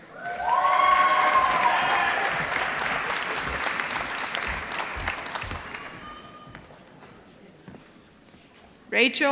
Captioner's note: applause